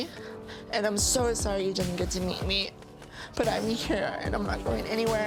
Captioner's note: none